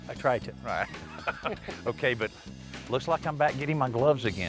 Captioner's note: laughing